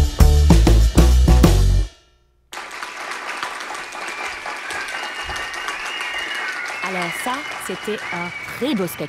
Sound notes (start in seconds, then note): 2.5 audience applause; 6.7 speaking in french